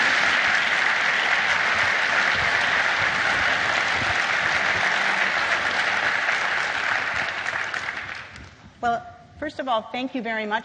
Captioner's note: applause; applause